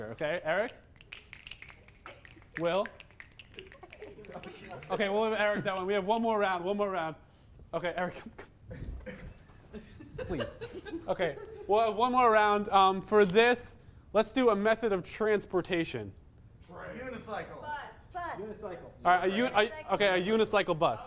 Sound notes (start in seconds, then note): 0.6 quicker snapping